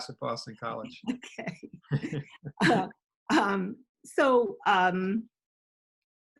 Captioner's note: laughs